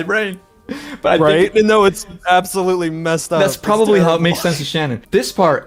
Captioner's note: laughs